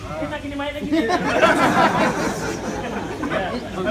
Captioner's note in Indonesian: Jama'ah tertawa